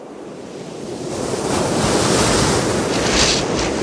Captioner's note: water rushing